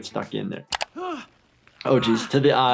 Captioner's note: man gasping